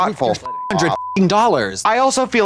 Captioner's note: beep